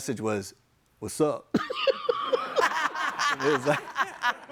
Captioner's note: all laughing